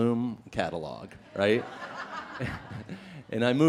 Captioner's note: laughing